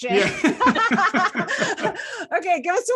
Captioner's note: laugh